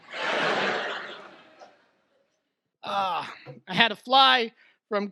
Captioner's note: audience laughs